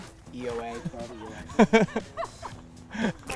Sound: laughter

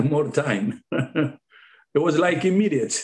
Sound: laughing

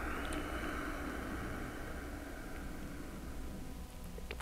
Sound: exhales

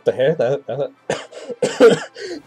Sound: coughs

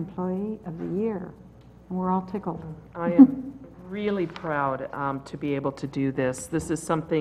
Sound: laugh

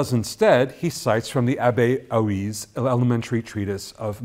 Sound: foreign language

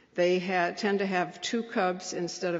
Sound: none

